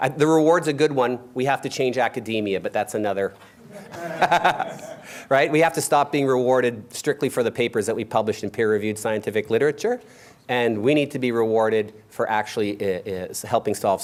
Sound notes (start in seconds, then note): 3.6 laughter